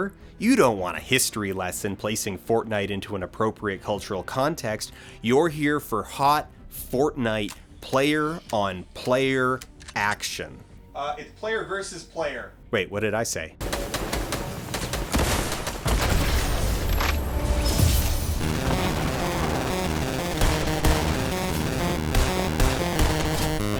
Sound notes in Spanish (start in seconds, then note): 14.1 Disparos y explosiones